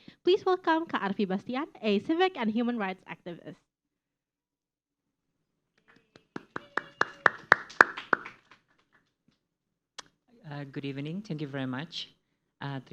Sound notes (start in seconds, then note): 5.8 clapping noises